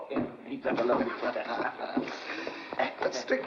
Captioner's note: Slade laughs